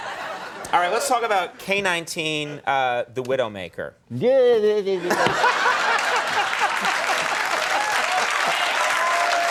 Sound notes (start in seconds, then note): 5.1 applause and laughter